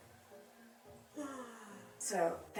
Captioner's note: sighs